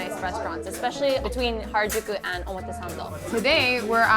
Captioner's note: speaking foreign language